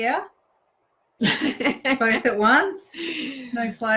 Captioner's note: laughs